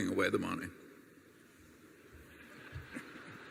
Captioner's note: laughter